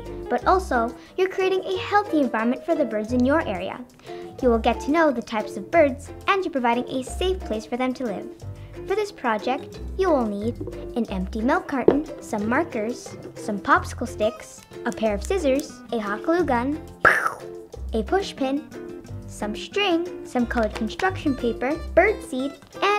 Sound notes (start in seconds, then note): 17.0 makes shooting noise